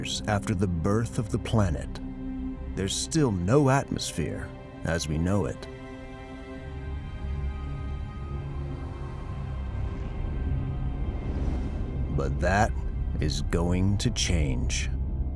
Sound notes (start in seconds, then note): 5.9 ethereal music; 10.7 debris whooshes; 15.1 ominous music